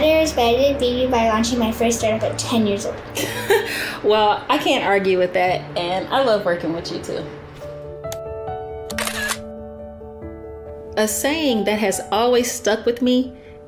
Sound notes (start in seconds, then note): 3.2 laughs; 8.9 camera clatters